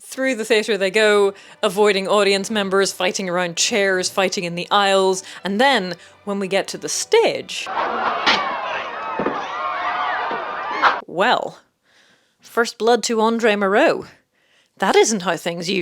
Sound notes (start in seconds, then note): 7.7 cries